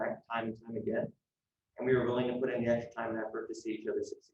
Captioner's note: none